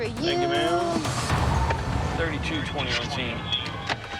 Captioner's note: radio beeps